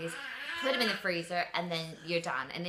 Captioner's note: burbles